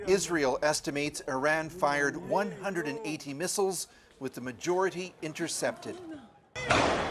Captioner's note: speaking alternate language